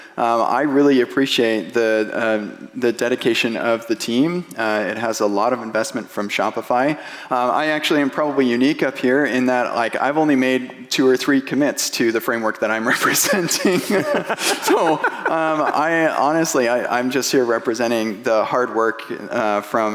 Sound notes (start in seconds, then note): 12.8 laughing